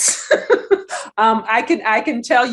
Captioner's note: laughs